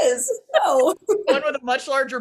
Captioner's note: laughs